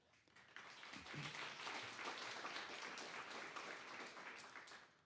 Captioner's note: applause